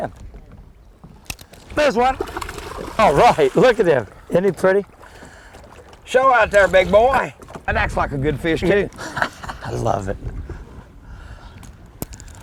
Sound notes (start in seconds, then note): 1.5 splash; 8.9 laughter